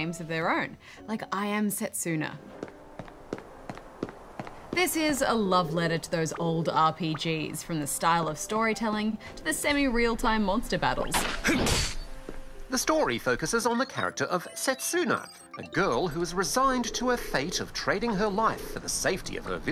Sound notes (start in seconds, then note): 12.2 footsteps echo